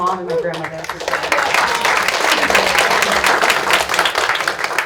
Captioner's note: audience applauds